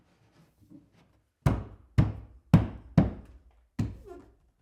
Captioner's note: fist pounding